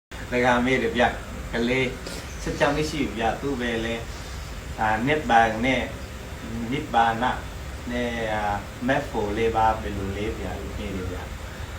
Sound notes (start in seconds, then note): 1.9 Vietnamese